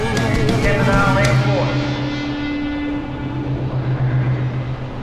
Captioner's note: William On Speaker